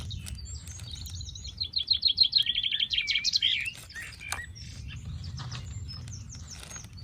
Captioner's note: birds chirping